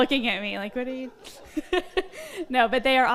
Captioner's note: all laugh